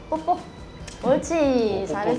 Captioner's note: muah!